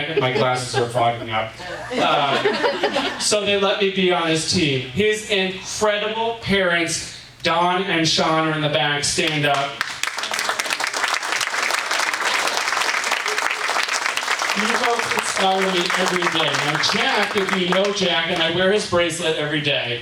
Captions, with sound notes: and my glasses were fogging up. (audience laughing) So they let me be on his team. His incredible parents, Dawn and Sean, are in the back, stand up. (audience applauding) You both inspire me every day. And Jack, if you know Jack, and I wear his bracelet every day.